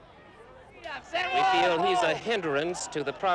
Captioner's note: protestors yell angrily